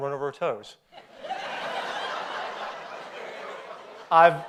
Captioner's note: audience laughs